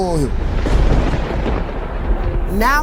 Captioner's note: thunder crashing